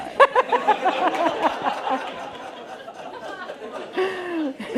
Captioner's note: laughter